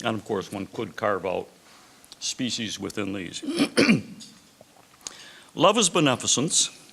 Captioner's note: clears throat